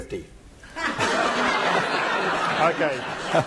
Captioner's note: laughter